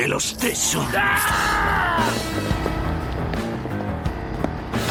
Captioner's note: leeches screeching